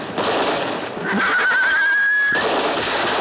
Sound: horse whinnies

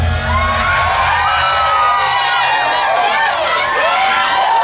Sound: crowd cheering

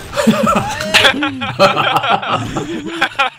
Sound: laughing

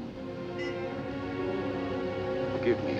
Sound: horn honking

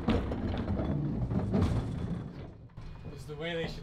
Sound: metal clanking

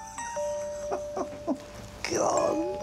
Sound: John chuckles

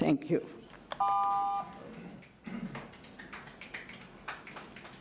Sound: timer beeps

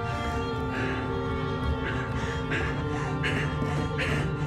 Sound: heavy breathing

